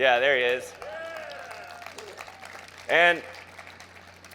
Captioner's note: crowd cheers